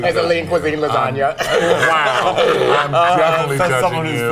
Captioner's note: laughs